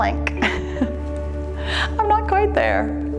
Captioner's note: laughs